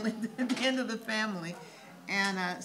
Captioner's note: laughs